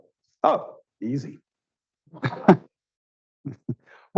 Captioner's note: laughs